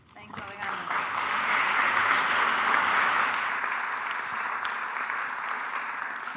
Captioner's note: audience applauding